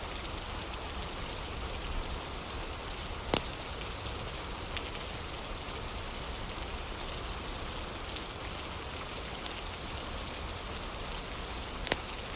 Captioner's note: fire crackling; fire crackling